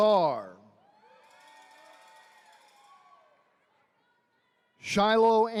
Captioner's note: attendees cheering